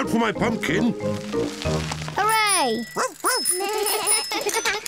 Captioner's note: all giggle